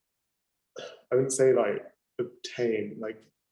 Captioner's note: sighing